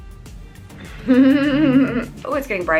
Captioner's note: laughs